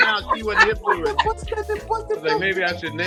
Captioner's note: laughing